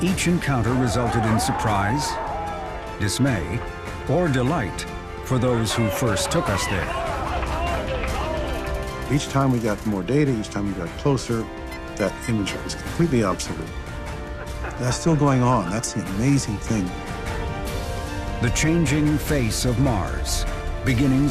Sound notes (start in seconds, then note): 2.2 group cheers; 8.2 group cheers and applauds